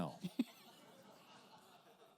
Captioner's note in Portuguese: risos da plateia